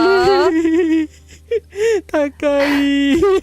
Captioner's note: laughter